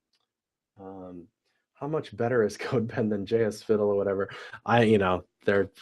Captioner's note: laugh